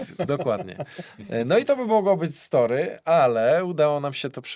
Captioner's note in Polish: śmiech